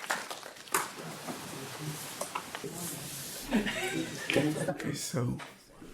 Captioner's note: faintly speaking